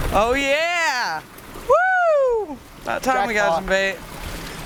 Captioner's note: cheering